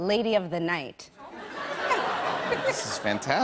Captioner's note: laughter